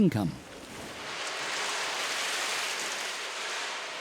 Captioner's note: metal scraping